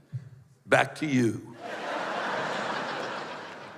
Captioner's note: laughter